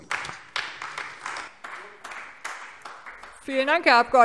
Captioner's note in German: Beifall AfD